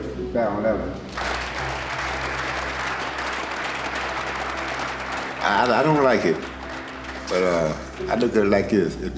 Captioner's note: applause